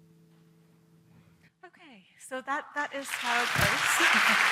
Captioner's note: applause